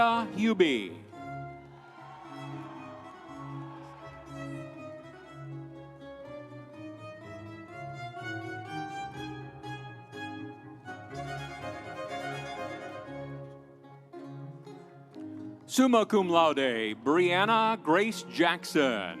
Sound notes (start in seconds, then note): 1.5 audience cheering; 2.0 instrumental music